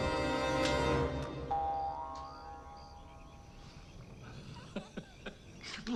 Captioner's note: door crashes; tense music grows; tense music cuts; gun clicks; laughs